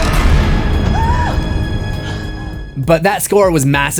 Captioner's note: screams